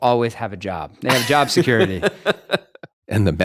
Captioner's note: both laughing